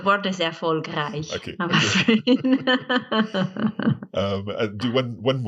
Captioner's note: laughing